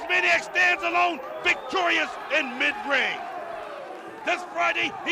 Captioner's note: crowd cheering